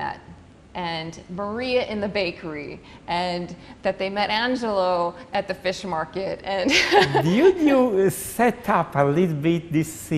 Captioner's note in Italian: risate